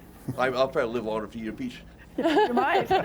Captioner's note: laughter